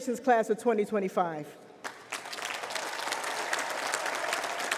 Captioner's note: cheering, applause